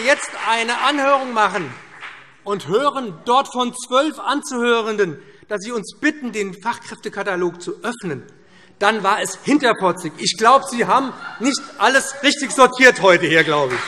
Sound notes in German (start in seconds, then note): 10.6 Heiterkeit BÜNDNIS 90/DIE GRÜNEN - Zurufe DIE LINKE